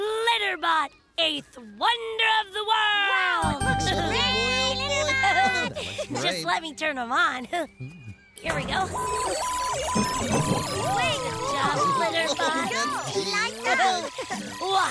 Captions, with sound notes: LITTERBOT, EIGHTH WONDER OF THE WORLD! WOW! YAY, LITTERBOT! JUST LET ME TURN HIM ON. HERE WE GO. ( Electronic Beeping & Whirring ) ( All Exclaiming Excitedly ) HE LIGHTS UP!